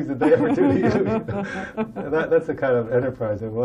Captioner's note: laughter